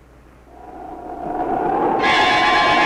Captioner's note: wind blowing eerily; suspenseful music